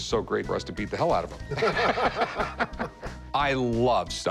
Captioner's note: laughter